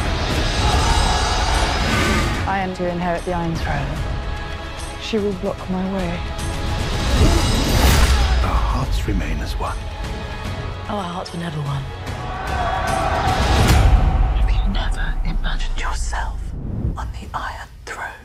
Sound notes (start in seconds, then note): 0.2 all cheer; 12.1 battlecries